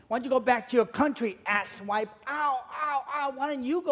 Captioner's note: none